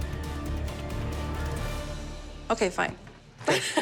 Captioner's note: laughs